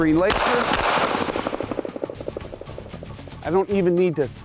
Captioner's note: gun firing